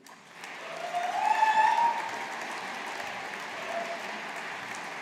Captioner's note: audience applauding